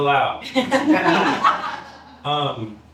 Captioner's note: laughter